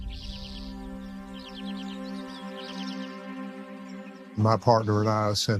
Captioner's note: birds chirping